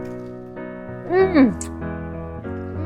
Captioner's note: chef's kiss sound